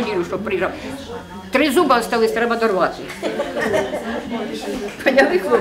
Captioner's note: laughs